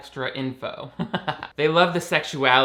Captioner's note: laughing